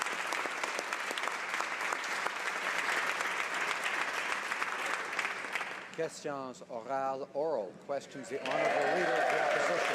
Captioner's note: applause